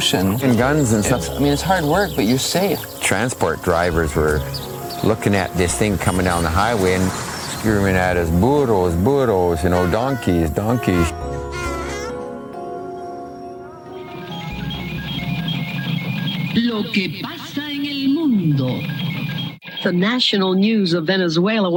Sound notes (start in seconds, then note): 11.3 donkey whining